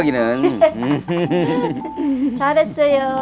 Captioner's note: both laughing